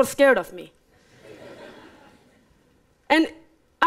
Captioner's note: laughter